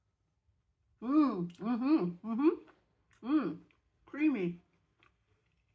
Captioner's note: happy mouth noises